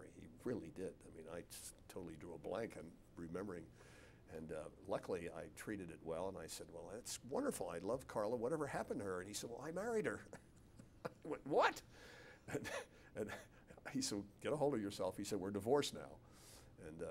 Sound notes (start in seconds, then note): 10.1 laughs